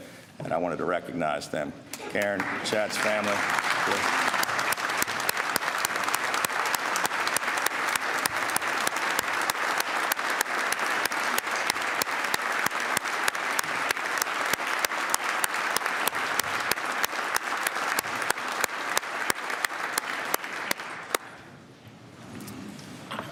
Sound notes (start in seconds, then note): 9.8 applause